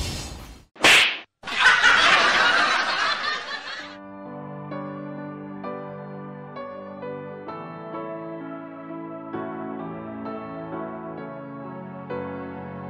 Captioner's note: laughs